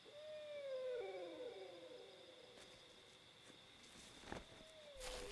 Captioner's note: distant animal whimpering